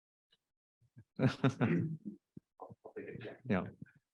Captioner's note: laughs